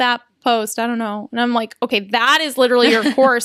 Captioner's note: laughs